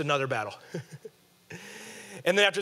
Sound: laughing

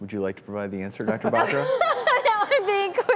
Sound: laughing

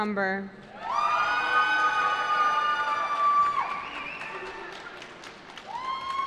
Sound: cheering

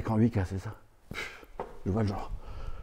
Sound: exhale

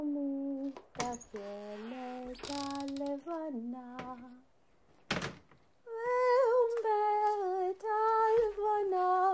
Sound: door opens and woman enters singing

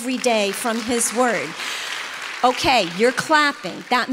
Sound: congregation applauds

